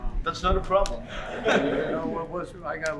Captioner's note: laughter